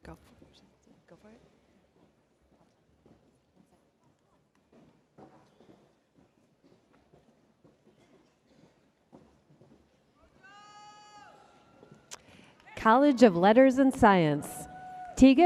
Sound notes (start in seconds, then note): 10.4 spectator shouting